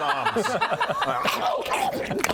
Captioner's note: nom nom nom